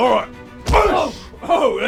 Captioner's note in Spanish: ¡booosh!